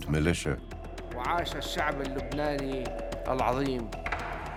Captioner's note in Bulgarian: Аудио на арабски